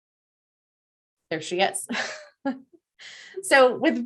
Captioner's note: chuckling